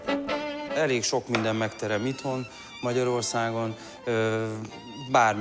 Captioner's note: speaking in foreign language